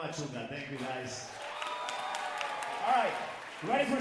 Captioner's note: audience cheering and applauding